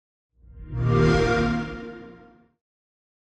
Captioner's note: xbox sound